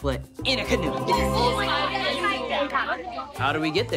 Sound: indistinct chatter

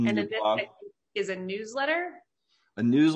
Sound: faintly speaking

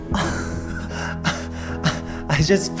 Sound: laughing

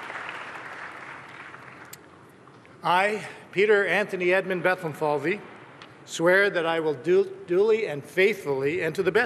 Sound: cheers and applause

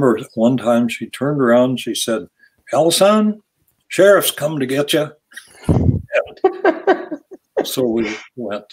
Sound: all laugh

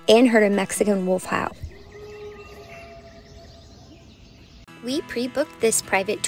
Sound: wolf howl

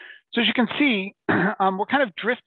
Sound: clears throat

